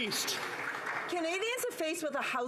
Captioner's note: some Applause